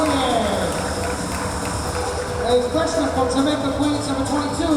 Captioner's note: clapping